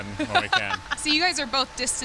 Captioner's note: laughs